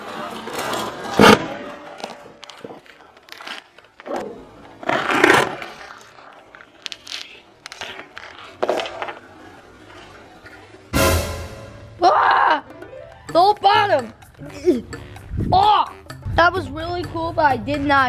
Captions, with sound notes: [pop] [crunch] wah the whole bottom ah that was really cool but I did not